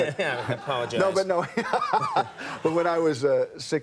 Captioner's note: Kevin laughs